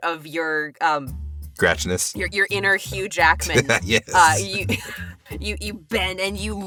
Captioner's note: chuckles